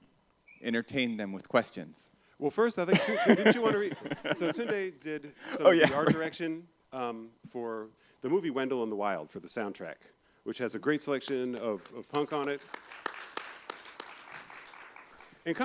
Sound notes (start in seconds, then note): 3.0 laughs; 11.3 applause